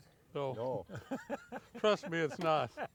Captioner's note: laughs